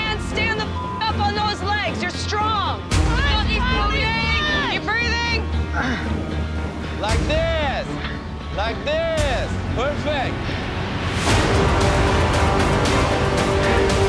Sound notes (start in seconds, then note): 0.7 beep; 3.3 on-lookers cheering; 11.3 intense music